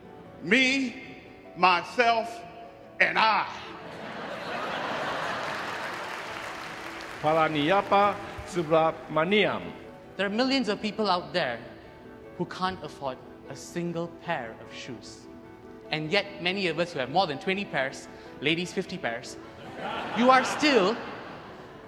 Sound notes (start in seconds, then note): 3.7 audience laughs